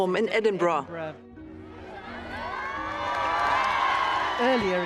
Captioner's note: crowd cheering